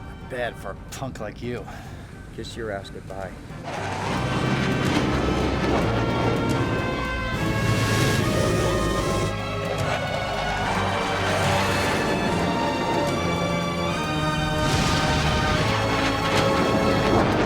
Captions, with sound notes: - Not bad for a punk like you. - Kiss your ass goodbye. (intense, dramatic music) (aircraft whooshing)